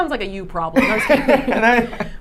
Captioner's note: laughing